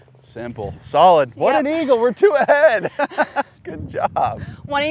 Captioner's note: laughs